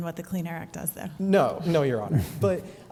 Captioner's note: laughter